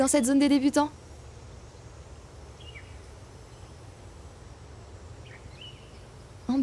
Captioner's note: scattered sounds of nature